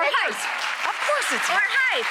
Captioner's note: audience clapping